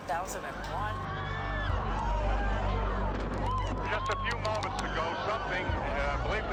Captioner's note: screaming